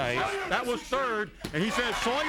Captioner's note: hand thudding